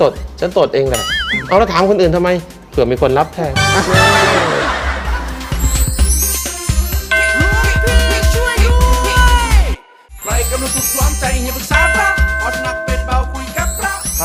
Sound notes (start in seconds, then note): 3.7 laughing